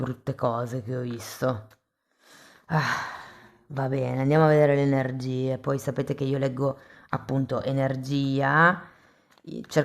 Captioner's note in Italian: sospiri